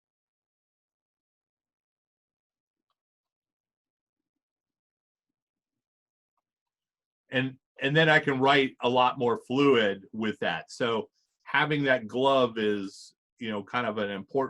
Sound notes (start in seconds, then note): 2.2 silence